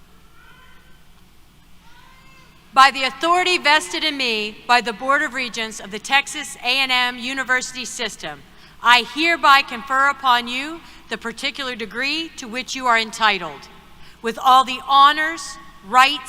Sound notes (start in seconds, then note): none